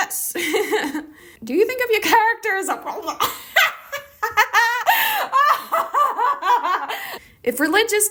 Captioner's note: laughs hysterically